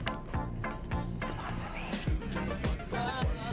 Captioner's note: whispers